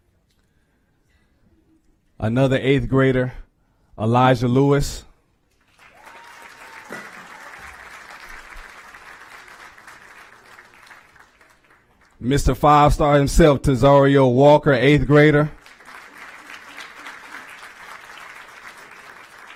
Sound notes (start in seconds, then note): 5.5 applause; 15.5 applause